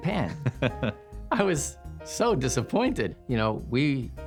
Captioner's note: chuckles